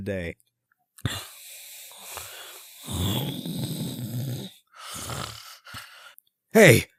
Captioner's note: snore